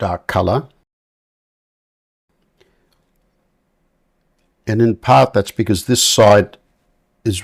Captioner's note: silence